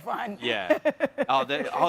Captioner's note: chuckles